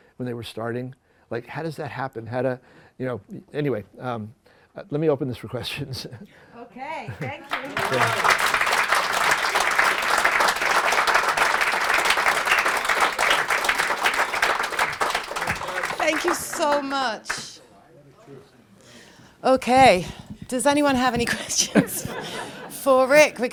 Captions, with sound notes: when they were starting, how does that happen? Anyway, let me open this for questions. OK. Thank you. [APPLAUSE] Thank you so much. OK. Does anyone have any questions for Rick?